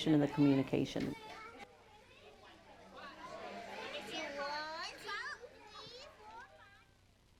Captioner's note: classroom chatter